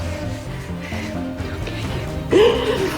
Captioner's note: whispering